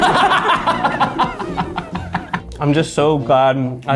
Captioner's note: laughs